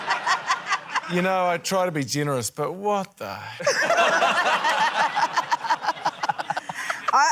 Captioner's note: laughter; laughter